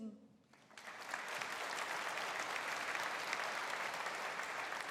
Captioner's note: audience applauding